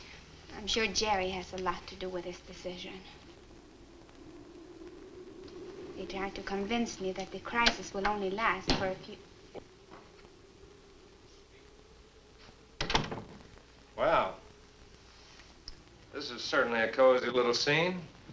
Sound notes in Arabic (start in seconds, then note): 12.8 يغلق الباب